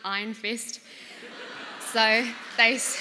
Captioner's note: laughter